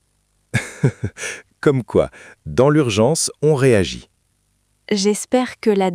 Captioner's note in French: rire